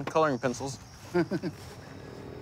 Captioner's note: laughter